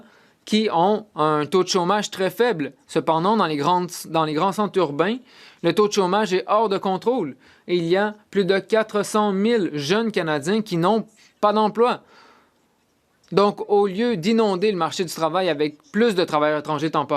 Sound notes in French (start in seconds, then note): 2.8 voix de l'interprète